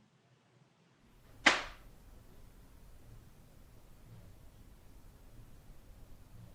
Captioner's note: paper slams